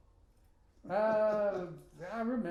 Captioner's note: laughing